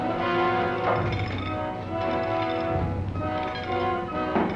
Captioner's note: chain clinks